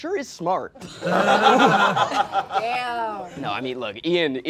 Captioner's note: all laughing